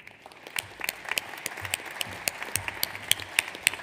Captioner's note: audience applauds